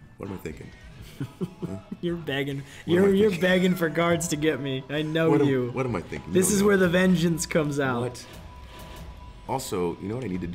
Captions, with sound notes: >> What am I thinking? >> [LAUGH] You're begging. You're begging for guards to get me, I know you. >> What am I thinking? >> This is where the Vengeance comes out. >> What? Also you know what I need to do?